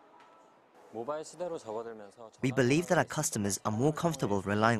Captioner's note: Korean